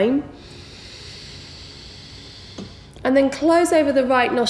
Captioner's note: heavy breathing